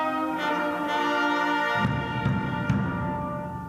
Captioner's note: none